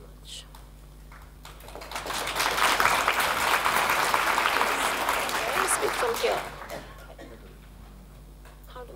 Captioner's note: applause